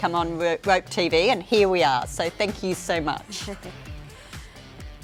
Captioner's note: chuckles